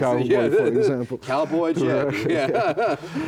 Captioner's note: laughs